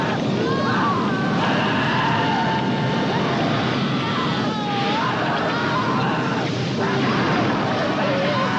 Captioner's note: Brian and Peggy screaming